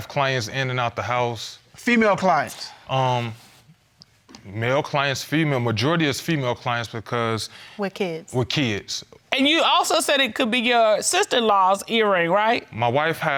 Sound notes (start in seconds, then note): none